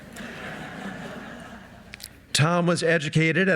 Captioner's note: audience laughing